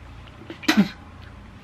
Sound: spits

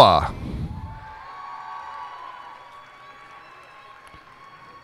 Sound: cheers and applause

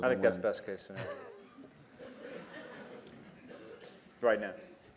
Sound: laughter

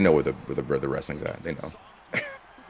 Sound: laugh

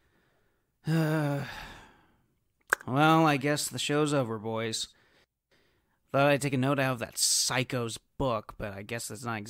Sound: sigh

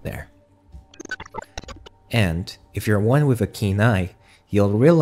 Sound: glitch sound effects

